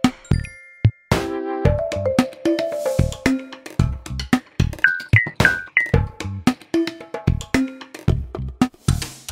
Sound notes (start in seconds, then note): 4.8 buttons tinkling